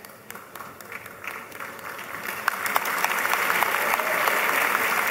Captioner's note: applause